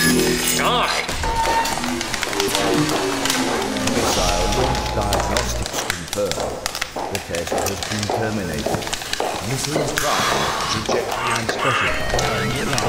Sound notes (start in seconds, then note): 3.0 footsteps